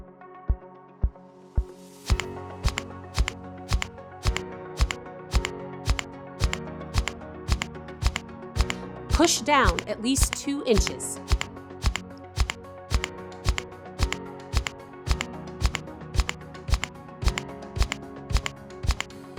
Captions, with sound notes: (upbeat music) (click, click, click, click) Push down at least 2 inches.